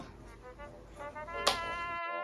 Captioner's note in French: applaudissements